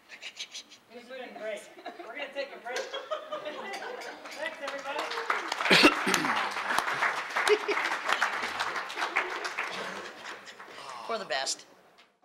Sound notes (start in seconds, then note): 0.2 laughing; 4.1 applause